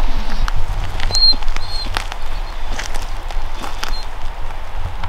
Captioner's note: Chewie whines